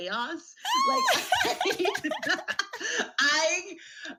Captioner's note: laughs